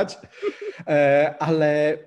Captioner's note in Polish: śmiech